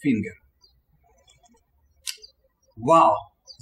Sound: birds chirping

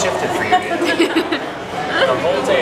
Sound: giggles

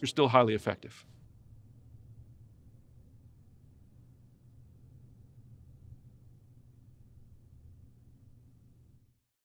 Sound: silence

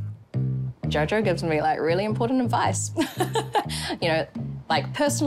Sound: chuckles

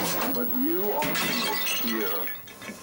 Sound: Walter hollering; glass breaking

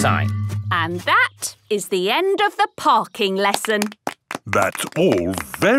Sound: clapping

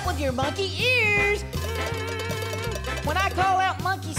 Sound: cowbell Ringing

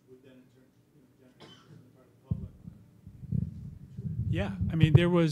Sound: coughing

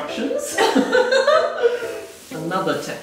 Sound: laughing

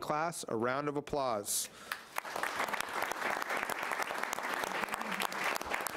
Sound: audience applauding

